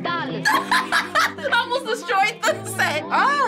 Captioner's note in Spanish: Risas